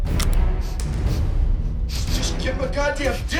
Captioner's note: gun cocks